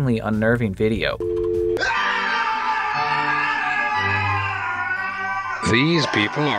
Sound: screaming

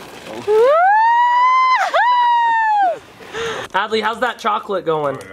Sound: cheering

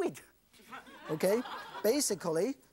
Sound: audience laughs

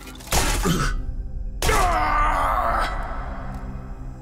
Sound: groaning

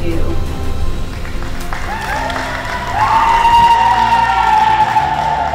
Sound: audience cheers

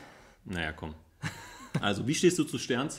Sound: laughs

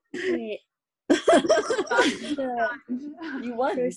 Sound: laughing

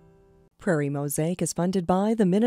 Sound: voiceover

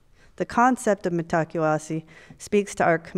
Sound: speaks foreign language

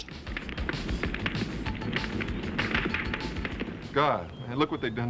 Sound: gunfire

